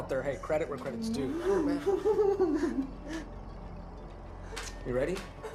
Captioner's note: Patrick giggling